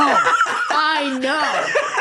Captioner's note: laughing